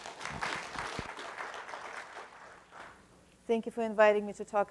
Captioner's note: audience applause